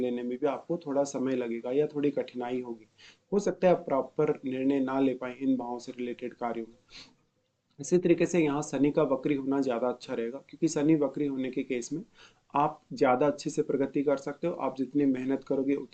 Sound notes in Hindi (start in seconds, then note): 6.5 नाक से की जाने वाली आवाज़